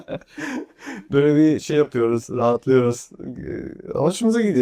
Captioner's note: laughs; takes a deep breath